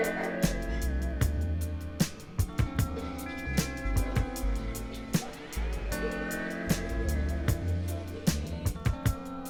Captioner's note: laughs